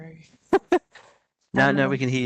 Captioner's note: giggles